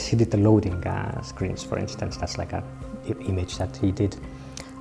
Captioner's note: none